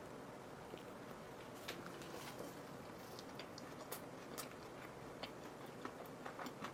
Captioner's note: rumbling stomach